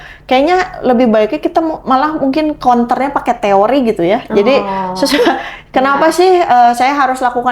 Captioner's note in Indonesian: tertawa